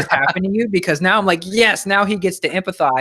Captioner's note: laughs